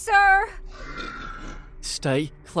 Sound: growling

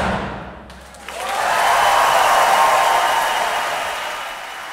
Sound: loud applause

